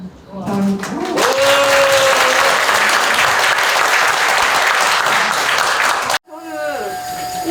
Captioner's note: applause